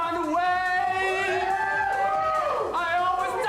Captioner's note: friends cheer